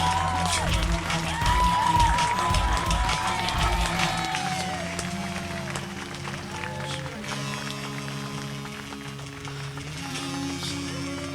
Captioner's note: applause